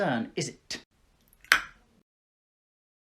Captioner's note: tongue pop